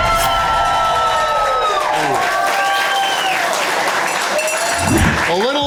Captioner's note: crowd clapping and cheering